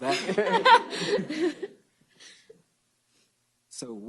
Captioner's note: laughter